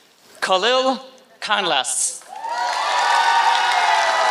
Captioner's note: applause